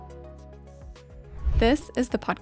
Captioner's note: upbeat music continues; transition whooshing